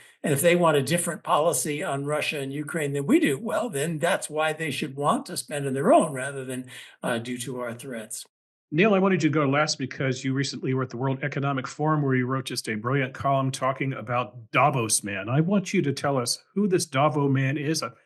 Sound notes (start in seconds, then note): none